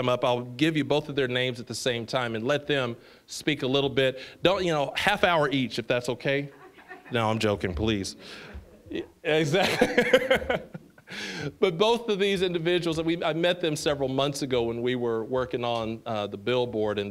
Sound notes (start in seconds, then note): 6.5 scattered laughing; 9.4 laughing